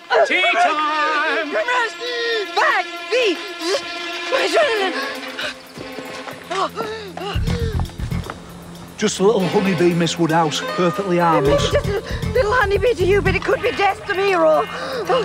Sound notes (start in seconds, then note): 5.0 Georgina gasping